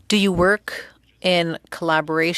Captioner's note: speaking French